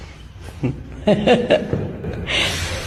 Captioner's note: nervous laughter